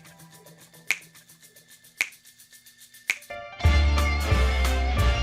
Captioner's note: snapping fingers rhythmically